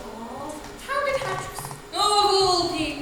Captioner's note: audience awws